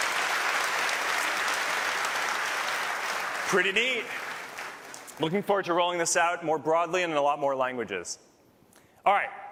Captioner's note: cheers and applause